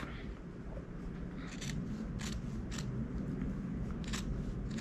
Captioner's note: scissors snipping